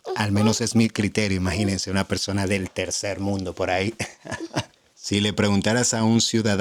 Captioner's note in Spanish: risas